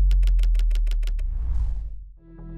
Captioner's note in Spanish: máquina de escribir